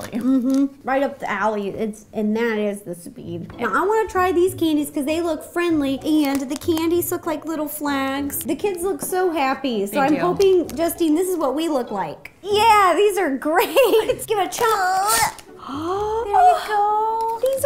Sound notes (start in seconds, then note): 13.6 laughs; 15.1 slices; 15.3 gasps